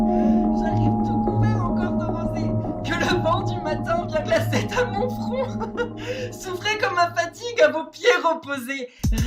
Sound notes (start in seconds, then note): 2.9 foreign language